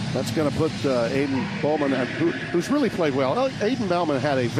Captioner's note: normal voice; American accent